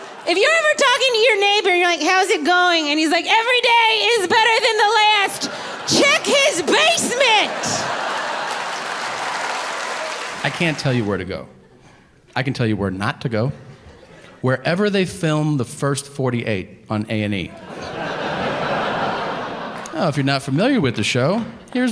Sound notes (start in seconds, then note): 0.0 audience laughing; 7.7 audience clapping; 7.7 audience laughing; 17.4 audience laughing